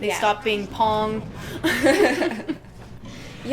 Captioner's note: laughter